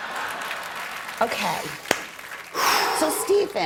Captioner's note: laughter